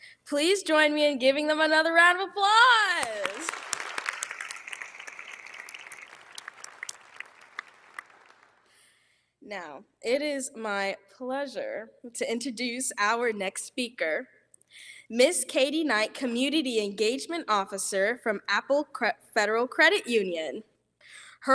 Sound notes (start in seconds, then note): 3.0 all applauding